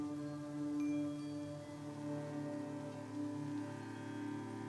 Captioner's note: chimes jingling